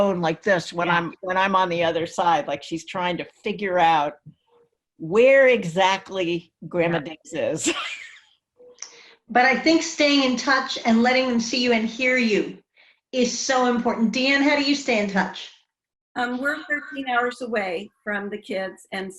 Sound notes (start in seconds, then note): 8.5 laughs